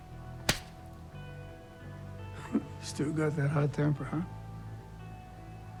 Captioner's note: slaps hand